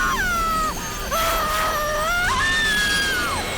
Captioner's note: screaming; screaming Continues